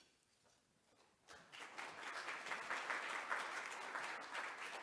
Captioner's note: audience applauds